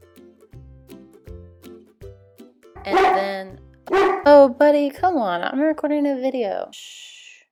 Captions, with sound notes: (lighthearted guitar music) And then (dog barks) Oh Buddy, come on, I'm recording a video!